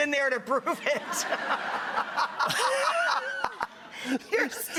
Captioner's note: audience laughs